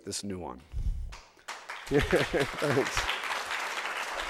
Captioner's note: audience applause